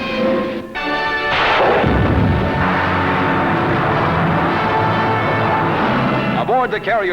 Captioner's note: explosion, engine